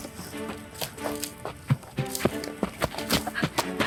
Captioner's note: footsteps running